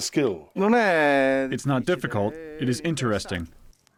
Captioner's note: through translator